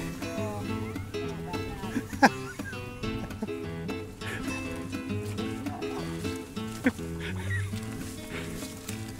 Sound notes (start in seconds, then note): 2.7 chuckles; 2.7 upbeat music